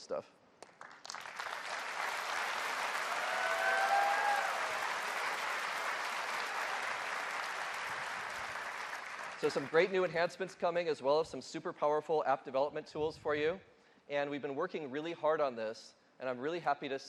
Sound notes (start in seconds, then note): 7.1 applause